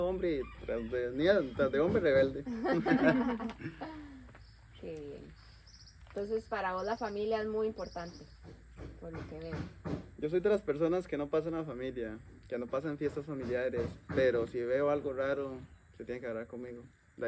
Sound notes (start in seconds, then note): 2.4 laughter